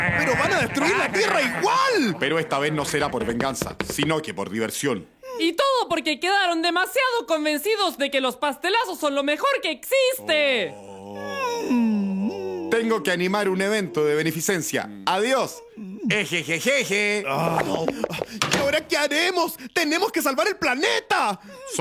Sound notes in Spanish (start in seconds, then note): 17.2 sighs